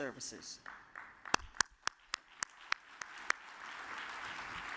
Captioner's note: audience applauds